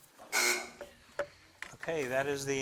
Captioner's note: timer buzzes